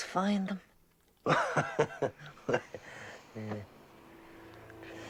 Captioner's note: Riéndose